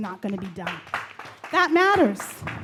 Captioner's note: audience claps